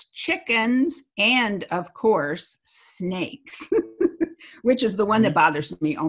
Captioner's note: laughs